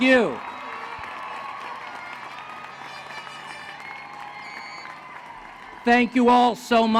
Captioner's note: applause